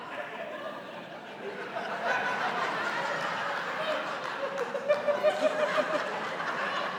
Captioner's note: laughter